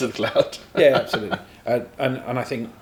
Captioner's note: laughter